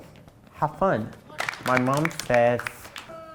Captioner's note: applause